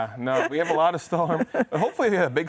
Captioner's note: laughs